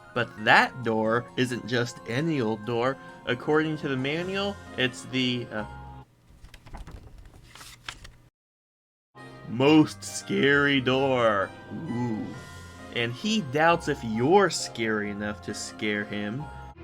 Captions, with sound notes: But that door isn't just any old door, according to the manual, it's the... *paper rustling* most scary Door! Oooh. And he doubts if you're scary enough to scare him.